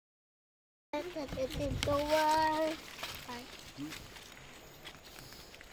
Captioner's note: children chattering in Yanomami